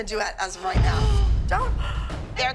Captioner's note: gasps